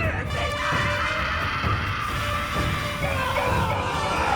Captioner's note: dark intense music; Elaine screams; Will screams